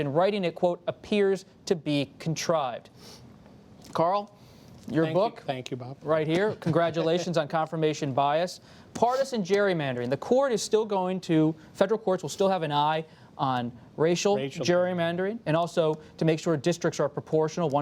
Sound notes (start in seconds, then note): 6.4 laughs